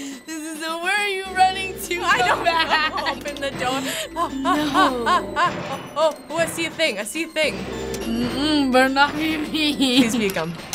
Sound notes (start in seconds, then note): 4.0 staccato gasps